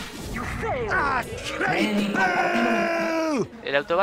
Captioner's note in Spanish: Abucheos